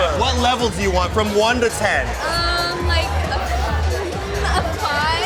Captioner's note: none